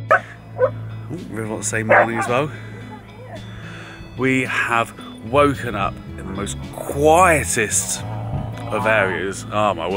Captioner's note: River barking